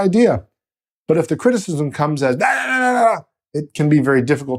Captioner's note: yelling